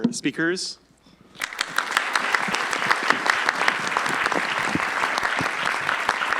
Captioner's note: applause